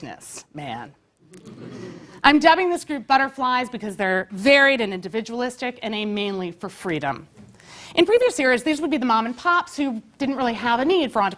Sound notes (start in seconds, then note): 1.3 laugh